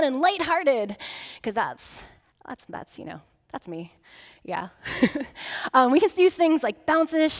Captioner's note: chuckling